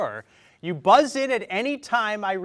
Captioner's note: none